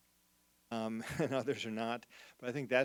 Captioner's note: chuckles